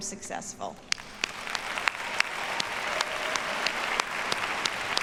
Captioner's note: audience applauds